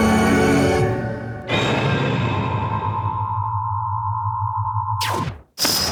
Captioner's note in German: Titelmelodie; Energie Summen